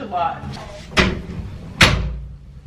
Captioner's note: door closing